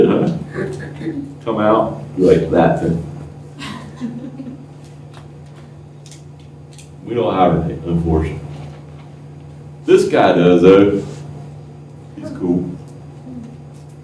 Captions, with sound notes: [LAUGHTER] Come out, be like that.[LAUGHTER] We don't have it here, unfortunately. This guy does though, he's cool.